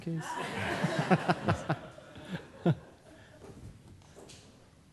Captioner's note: audience laughing